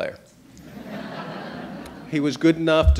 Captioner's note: audience laughing